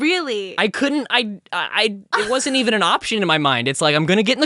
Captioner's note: stuttering